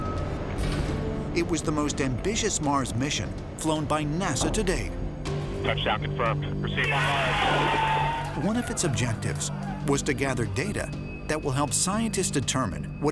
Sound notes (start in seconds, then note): 6.8 cheering, applause